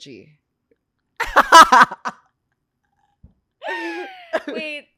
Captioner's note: laughs